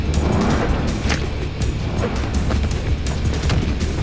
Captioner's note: whooshing